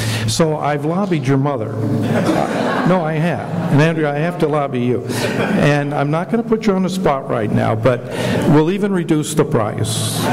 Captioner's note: laughter